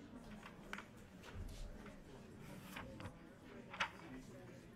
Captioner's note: people chattering